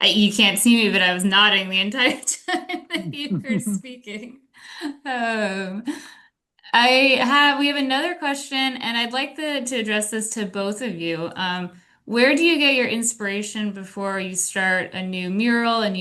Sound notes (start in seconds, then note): 2.2 laughs